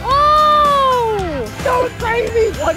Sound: exclaims

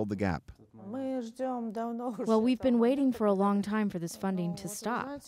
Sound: through translator

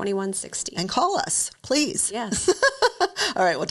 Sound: laughs

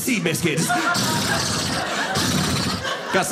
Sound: horse neighing

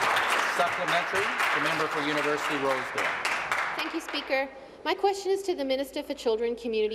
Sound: applause

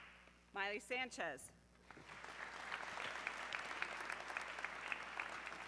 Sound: audience clapping

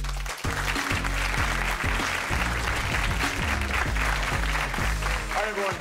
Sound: audience clapping

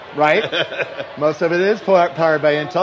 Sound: laughs

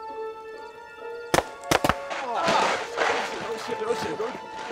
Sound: suspenseful music; paintball gunfire

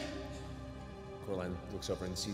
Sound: shouting

